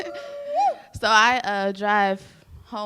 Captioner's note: cheers